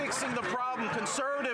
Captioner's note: laughter